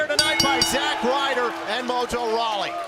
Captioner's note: bell ringing